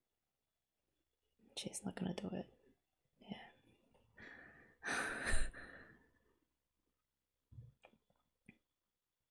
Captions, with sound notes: She's not gonna do it... Yeah. [relieved sigh]